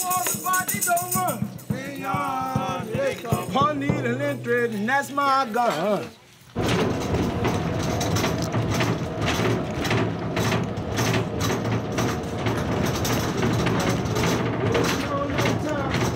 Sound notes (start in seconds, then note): 6.7 bus running